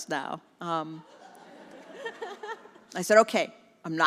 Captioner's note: congregation laughs